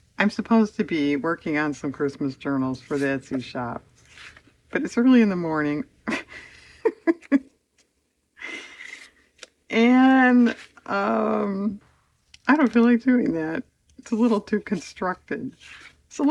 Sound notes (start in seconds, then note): 6.1 laughs